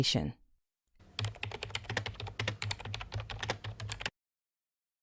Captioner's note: typing